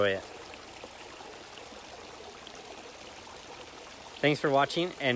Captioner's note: water gurgling